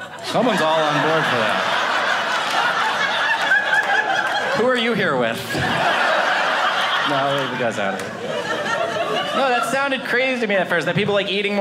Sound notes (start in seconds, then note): 2.2 audience laughing; 8.1 audience laughing